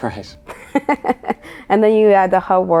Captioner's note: laughing